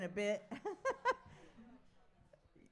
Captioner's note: laughs